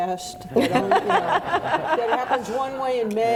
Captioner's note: audience laughing